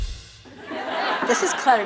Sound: audience laughing

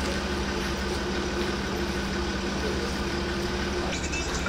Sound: he's trying to suppress his laughter after saying that

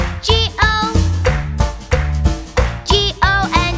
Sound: clap

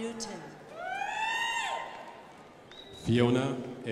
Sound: crowd applauding

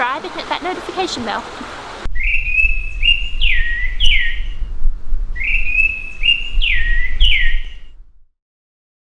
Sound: birds chirping

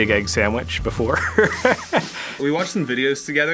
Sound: laughter

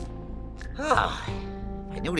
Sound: sigh

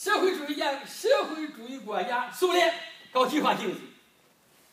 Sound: speaking foreign language

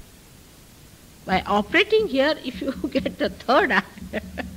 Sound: laughing

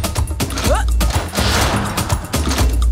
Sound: grunts

